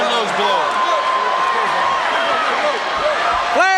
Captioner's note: crowd cheering